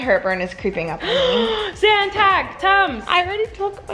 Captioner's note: gasps